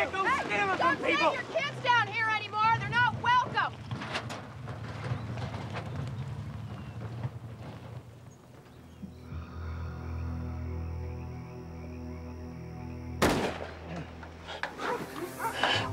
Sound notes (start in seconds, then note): 13.2 gun firing; 13.8 gasping